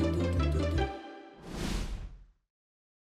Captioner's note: whoosh sound